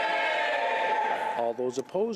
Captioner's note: screaming